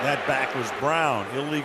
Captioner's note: booing